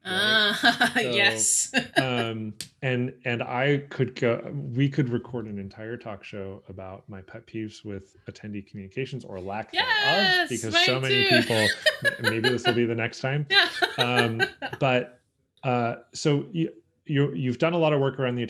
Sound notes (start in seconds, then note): 0.1 laughs; 9.0 laughs